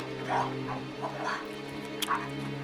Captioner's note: eating